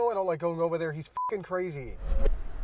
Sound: beep

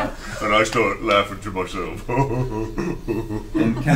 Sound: all laugh; silly laughter

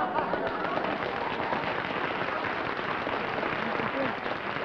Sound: applause

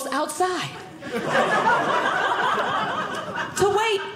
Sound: audience laughing

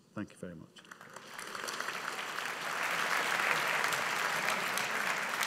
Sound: audience applauding

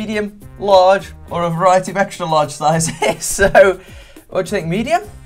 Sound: laughing

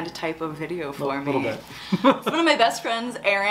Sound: laughs

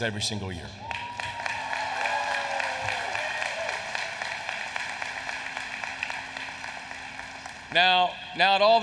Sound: applause

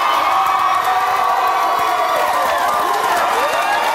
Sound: audience applauds

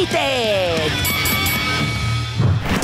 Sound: dinging

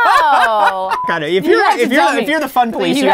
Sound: laughing

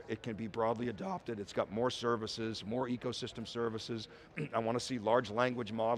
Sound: coughs

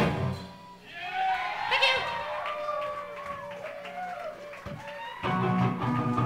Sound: crowd cheering; electric guitar rock music

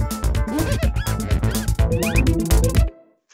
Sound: scrubbing

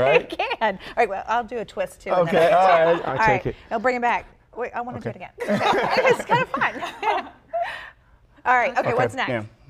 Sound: laughter

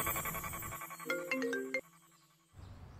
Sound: mobile ringing

